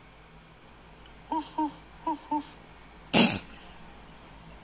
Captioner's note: soft barking